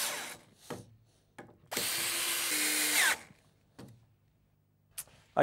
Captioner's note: drilling in screws